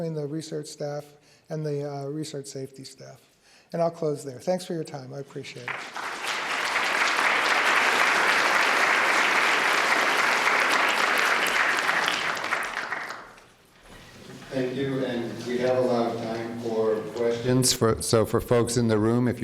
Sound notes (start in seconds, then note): 5.5 applause